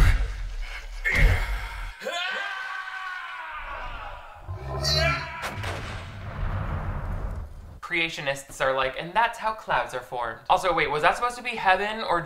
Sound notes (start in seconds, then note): 2.0 screams; 3.8 ghost shark growls; 4.8 screams; 5.4 ghost shark blasting